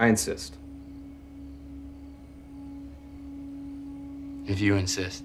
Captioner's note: crickets chirping; tense music